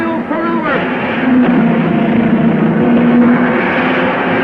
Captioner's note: cars revving